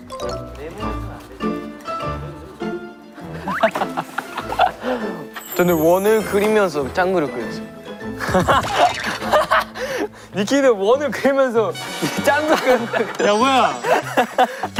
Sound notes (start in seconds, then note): 3.2 هاهاها